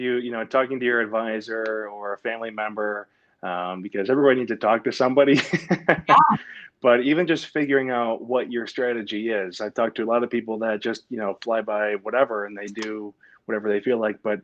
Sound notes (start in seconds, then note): 5.4 laughs